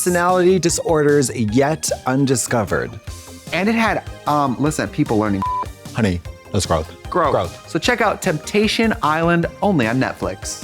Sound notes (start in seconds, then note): 5.4 beep